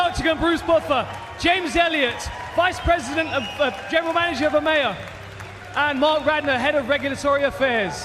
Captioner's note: cheers and applause